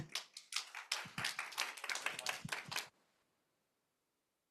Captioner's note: audience clapping